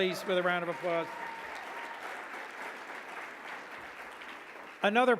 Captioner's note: audience clapping